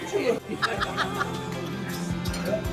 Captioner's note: laughs